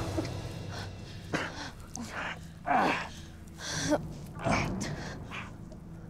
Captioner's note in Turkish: İnleme sesleri